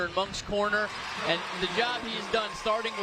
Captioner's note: applause